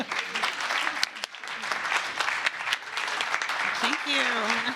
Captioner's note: applause